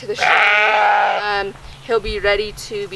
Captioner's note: lamb baas